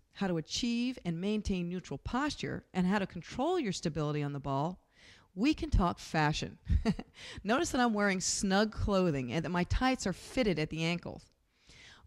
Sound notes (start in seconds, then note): 6.7 laughs